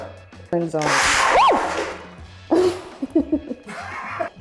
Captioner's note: machine whirring; screams